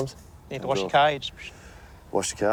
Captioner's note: whistles